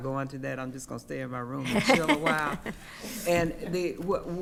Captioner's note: laughing